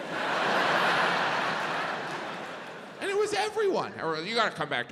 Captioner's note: audience laughs